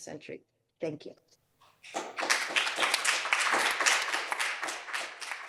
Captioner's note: applause